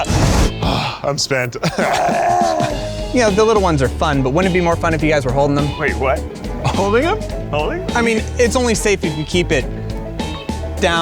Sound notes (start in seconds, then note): 0.0 flames bursting; 1.6 groaning